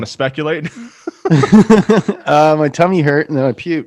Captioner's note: hosts laughing